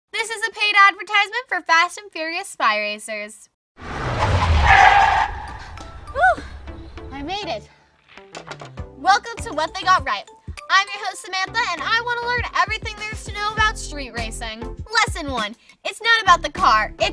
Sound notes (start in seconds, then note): 3.8 race car peeling out